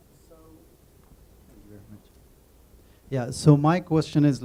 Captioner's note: murmuring